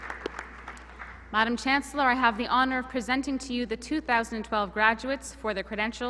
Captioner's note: applause